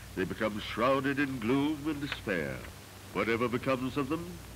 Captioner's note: none